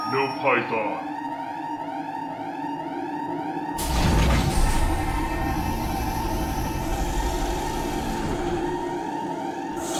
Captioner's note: alarm blares; growling